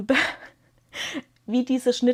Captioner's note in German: gelächter